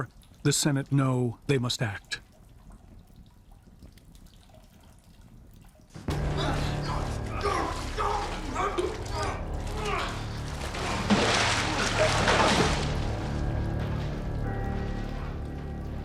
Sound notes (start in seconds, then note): 9.1 grunting